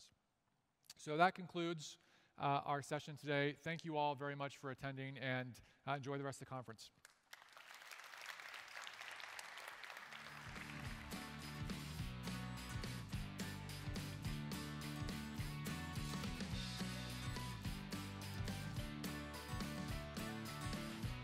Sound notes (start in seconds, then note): 10.5 applause